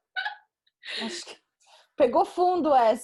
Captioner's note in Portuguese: risos